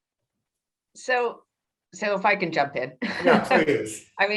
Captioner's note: laughs